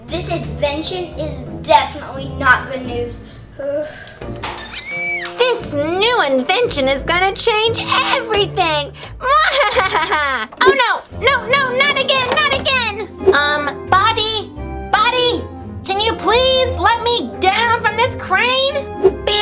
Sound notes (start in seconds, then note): 4.4 glass breaking; 4.8 screaming; 9.2 laughs